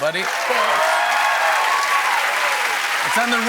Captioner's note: cheers and applause